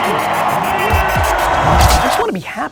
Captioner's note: crowd cheers